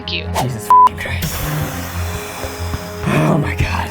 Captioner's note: beep